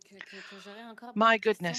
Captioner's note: speaking in French